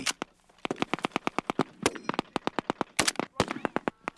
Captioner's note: machine gunfire; gunshots